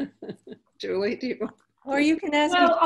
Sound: laughing

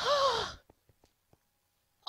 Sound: sigh

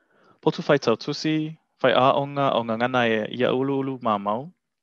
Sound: foreign language

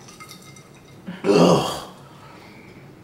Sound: satisfied grunt

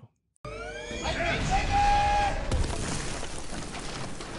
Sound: crashing

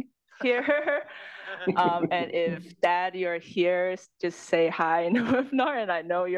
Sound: laugh

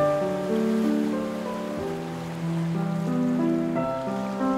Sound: water rippling

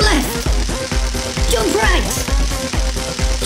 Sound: electricity crackling

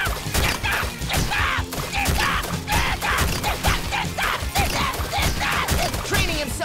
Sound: screaming

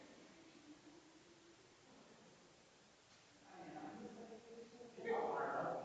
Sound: people chattering distantly continues

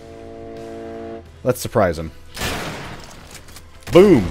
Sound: bam

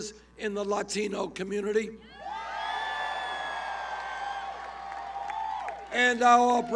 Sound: cheers

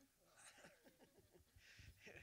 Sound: audience laughter

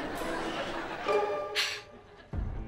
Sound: sigh

